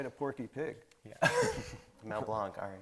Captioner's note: laughing